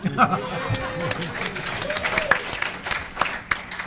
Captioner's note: audience laughter